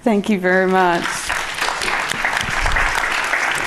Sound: applause

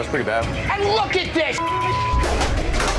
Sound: beeping

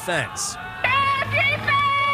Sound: notes:nats of mom cheering

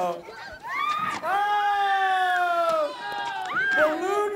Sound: cheering

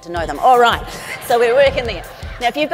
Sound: audience laughs

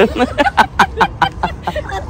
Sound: laughing

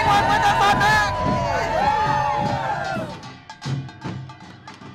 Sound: cheering

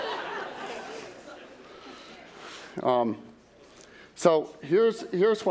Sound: laughter

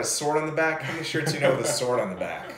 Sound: laughs

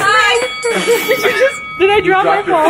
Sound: bell ringing

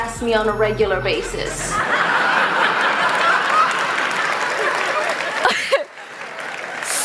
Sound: laughter

